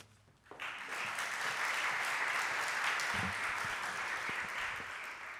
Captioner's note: applause